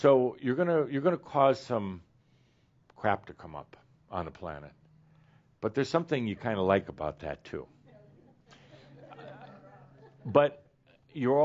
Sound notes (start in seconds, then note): 8.4 a few chuckles